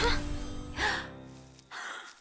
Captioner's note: Mischa gasps